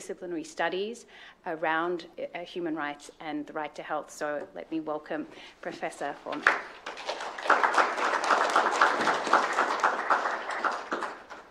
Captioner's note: applause